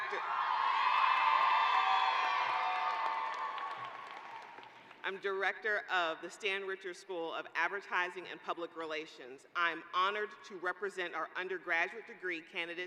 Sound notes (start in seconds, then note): 5.1 cheering